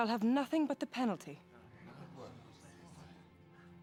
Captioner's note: crowd murmurs